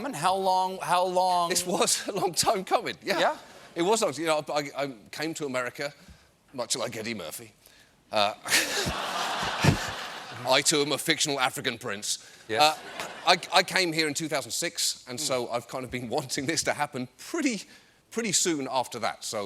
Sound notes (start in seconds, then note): 8.4 laughter